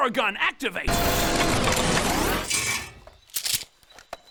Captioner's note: loud mechanical flamethrower-activating noises; ch-ching